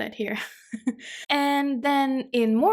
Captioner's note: chuckles